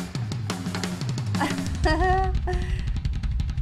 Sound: giggles

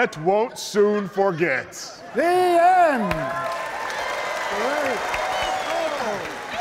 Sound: audience cheering

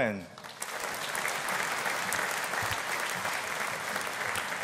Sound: audience applauding

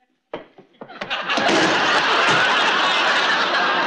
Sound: thunk

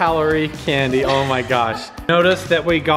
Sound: laughing

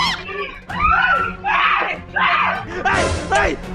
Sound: screams

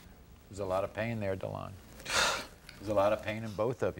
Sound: none

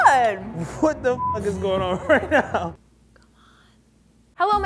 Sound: beep

